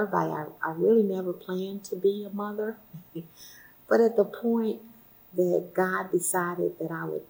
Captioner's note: laughs